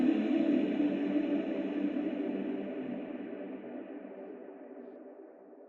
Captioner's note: humming fades